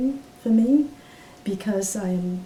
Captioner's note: none